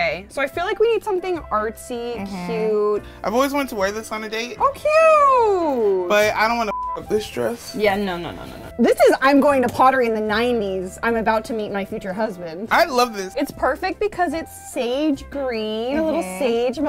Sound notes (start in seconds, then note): 6.7 beep